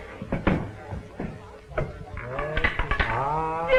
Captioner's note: roulette ball clinks into place